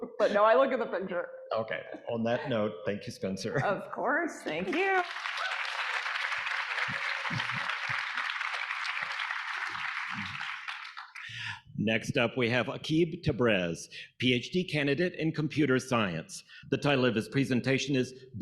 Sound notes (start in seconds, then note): 4.6 audience applauding; 4.8 audience cheering